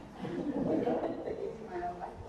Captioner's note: attendees laughing